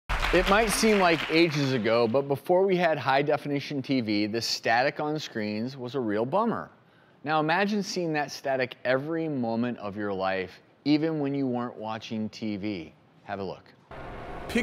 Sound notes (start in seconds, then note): 0.0 applause